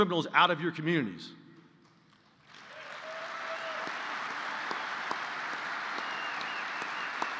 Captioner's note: applause